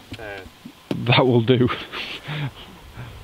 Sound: laughs

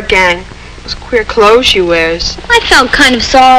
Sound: scoffs

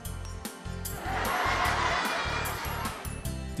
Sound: children laughing

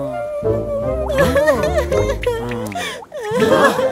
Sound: crying

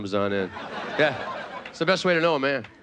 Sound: audience laughing

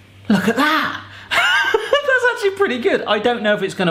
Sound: laughing

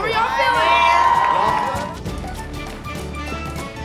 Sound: cheering

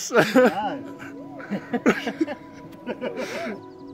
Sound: laughs

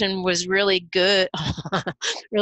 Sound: laughter

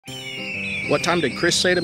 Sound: whimsical Music; eagle Screeches

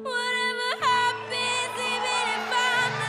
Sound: cheering

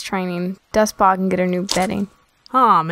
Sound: bedding squishes

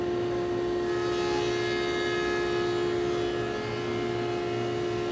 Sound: saw buzzing

